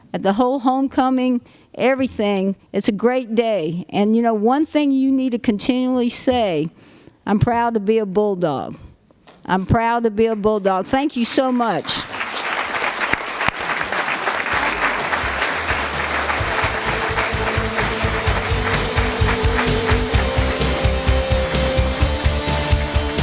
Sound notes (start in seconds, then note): 12.0 applause; 18.0 closing music